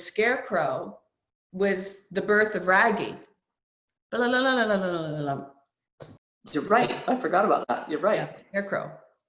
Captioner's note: hums music